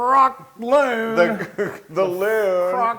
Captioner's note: laugh